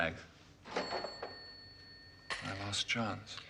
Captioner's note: Mesin kasir berbunyi